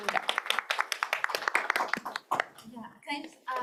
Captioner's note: applause